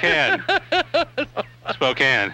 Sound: laughing

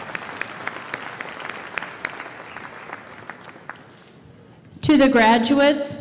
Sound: applause

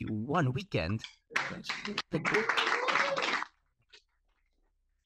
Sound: audience applauding

